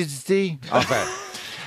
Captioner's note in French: rires